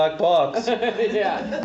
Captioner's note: laughs